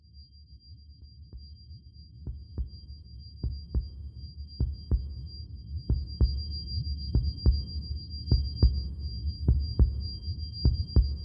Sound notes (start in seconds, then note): 1.7 heart beating; 1.7 high pitched humming